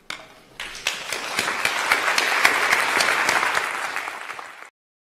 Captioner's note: applause